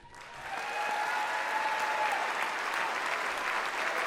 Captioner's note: audience applauds